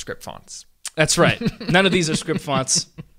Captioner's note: laughing